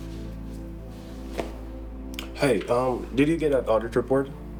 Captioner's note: phone voice